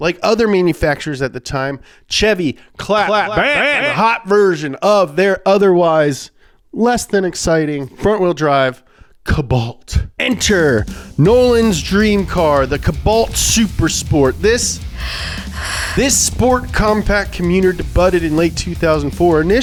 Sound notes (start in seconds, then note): 14.7 raspy breathing